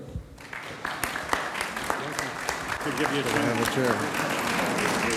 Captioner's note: audience applauds